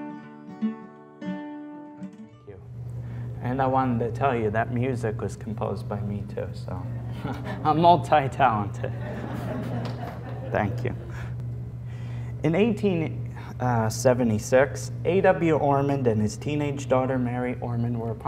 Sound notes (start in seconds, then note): 8.8 laughter